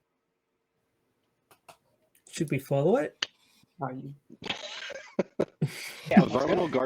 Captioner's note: laughter